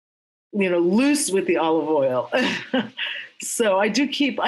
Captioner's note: laughs